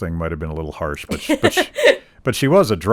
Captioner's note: laughing